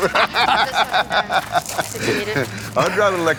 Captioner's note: laughter